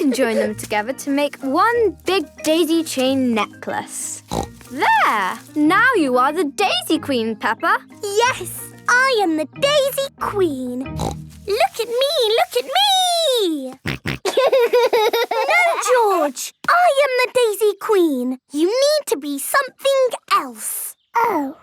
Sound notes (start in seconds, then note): 10.9 snorting; 13.8 snorting and laughing